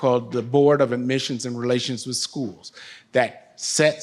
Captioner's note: none